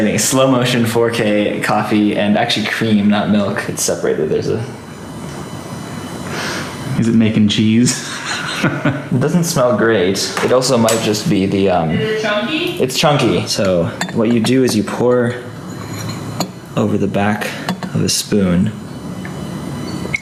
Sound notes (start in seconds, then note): 6.2 sniff; 7.9 laughs